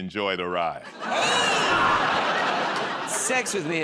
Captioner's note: laughter